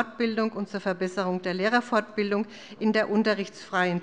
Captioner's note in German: none